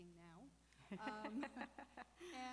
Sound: laughing

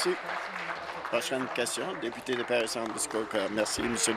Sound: applause

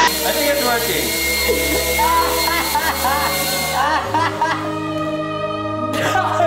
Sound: laughing

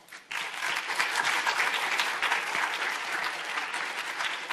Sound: audience applauding

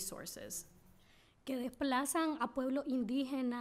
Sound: speaking spanish

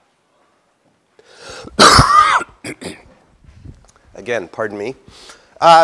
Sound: cough

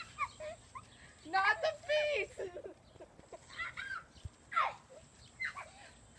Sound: giggling in the background

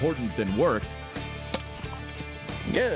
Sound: hits ball

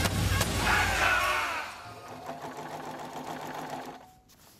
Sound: rattling of the sewing machine

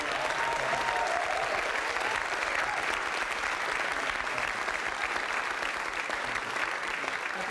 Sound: applause

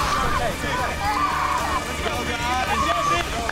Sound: other contestants clapping; screaming

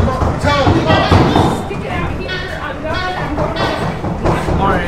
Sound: all chattering

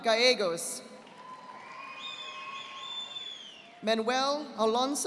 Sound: audience applauding

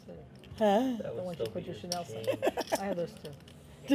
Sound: laughs

